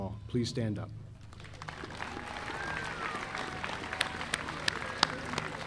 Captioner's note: audience applauding